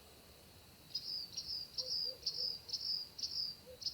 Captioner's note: bird chirping